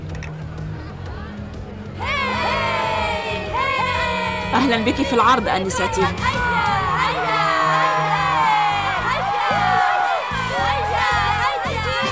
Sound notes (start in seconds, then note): 3.2 screaming